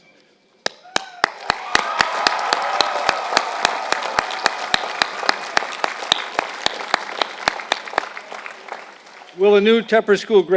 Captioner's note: applause